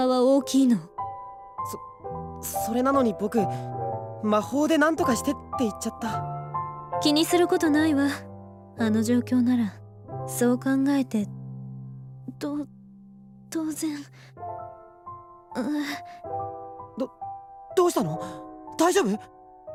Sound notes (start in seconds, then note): 15.8 groan